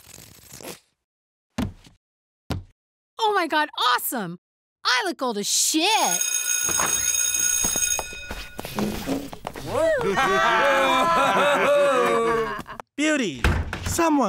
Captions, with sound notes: - Oh my god, awesome! I look old as shit! (bell ringing) (classmates cheering and laughing) - Beauty!